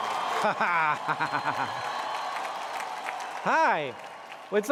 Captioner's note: laughs